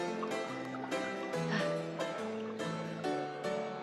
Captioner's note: sighs